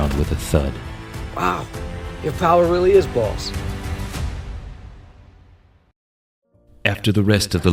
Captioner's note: impressed